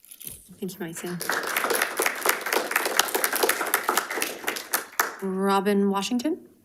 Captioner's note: audience applauding